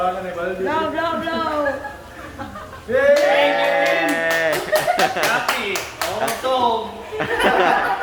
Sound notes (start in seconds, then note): 2.8 group cheering; 5.2 group laughing